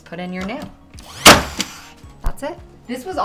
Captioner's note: nail gun ratcheting